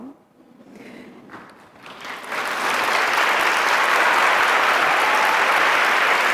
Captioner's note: audience chuckling and cheering